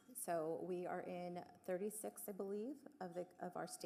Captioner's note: none